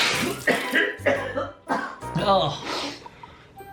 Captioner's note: coughing in pain